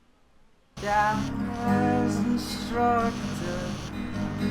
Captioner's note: phone rings